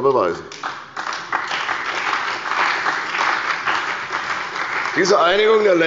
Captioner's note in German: Beifall bei der CDU und dem BÜNDNIS 90/DIE GRÜNEN